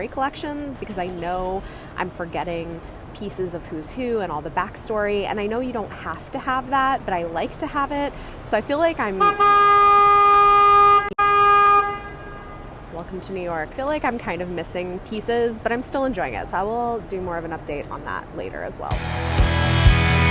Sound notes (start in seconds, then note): 9.2 loud honking